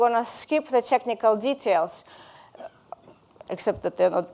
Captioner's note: chuckles